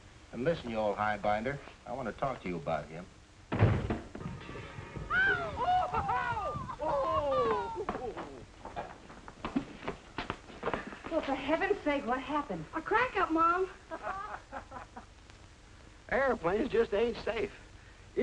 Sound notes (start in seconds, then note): 3.5 thud outside; 4.8 screams outside; 13.8 laughing